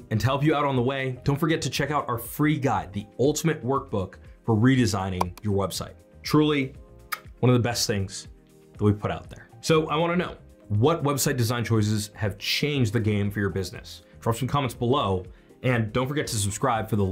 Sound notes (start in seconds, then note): 5.2 mouse clicks